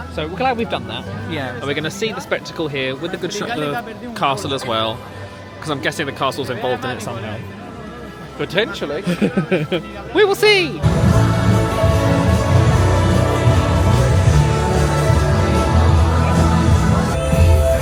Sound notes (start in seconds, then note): 9.0 chuckling